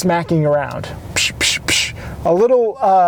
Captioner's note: imitates smacking sound